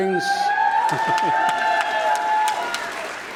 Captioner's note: applause